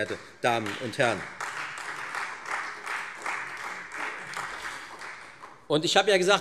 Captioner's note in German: Beifall Freie Demokraten